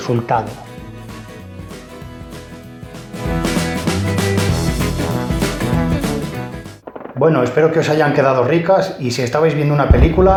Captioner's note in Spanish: Explosiones, disparos